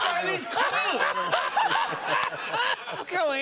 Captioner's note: laughter